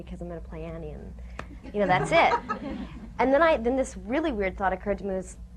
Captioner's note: laughter